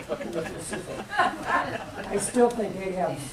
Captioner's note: laughter